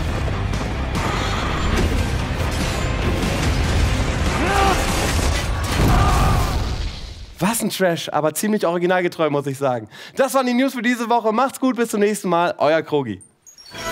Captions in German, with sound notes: (Heroische Musik) (Kampfgeräusche) Was 'n Trash. Aber originalgetreu muss ich sagen. Soweit die News diese Woche. Macht's gut, bis nächstes Mal. Euer Krogi.